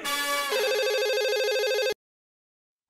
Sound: phone ringing

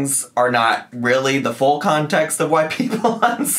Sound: laughing

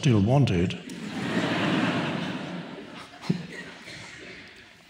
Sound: audience laughs

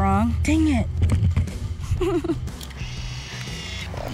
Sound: sobs; camera whirs

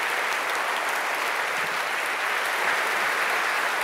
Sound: applause

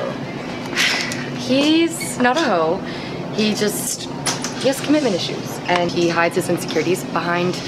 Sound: sigh

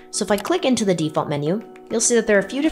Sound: mouse clicks

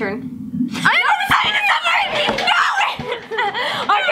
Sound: both screaming

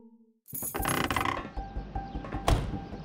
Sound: doors creak; doors slam

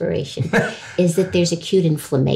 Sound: laughing

